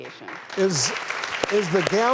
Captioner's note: audience applauding